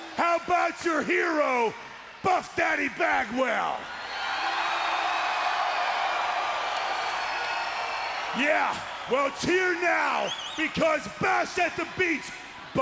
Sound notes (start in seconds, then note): 4.8 crowd cheers